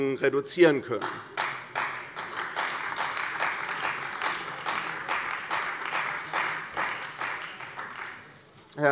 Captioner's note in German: Beifall bei der CDU